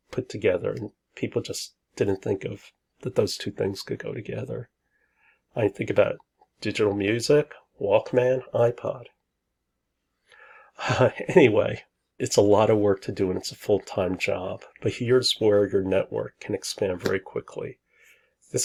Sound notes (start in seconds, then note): 11.0 laughs